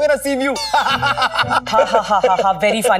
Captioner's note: Laughing